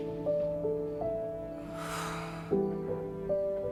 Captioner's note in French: soupirs